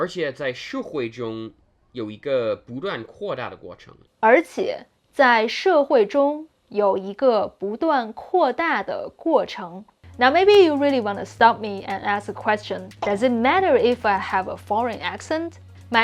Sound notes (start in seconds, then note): 0.1 speaking in Mandarin